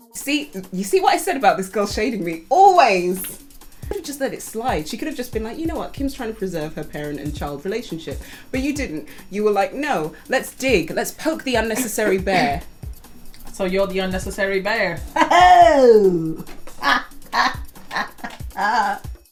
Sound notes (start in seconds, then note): 11.2 coughs; 17.8 laughs smugly